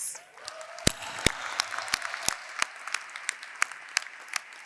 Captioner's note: applause